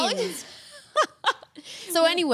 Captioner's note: laughs